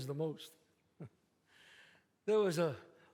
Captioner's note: scoffs